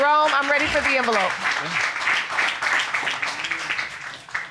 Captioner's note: audience applauding